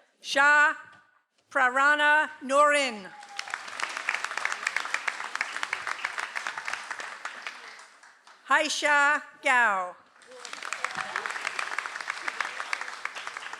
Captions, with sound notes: - Sha Prarana Norin. (audience applauds) - Haisha Gao. (audience applauds)